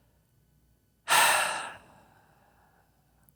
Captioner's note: sigh